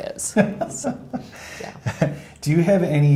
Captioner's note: laughing